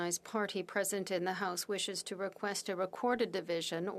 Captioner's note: speaking French